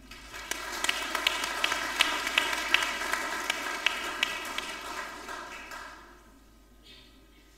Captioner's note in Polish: oklaski